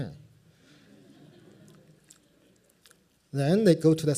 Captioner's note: laughter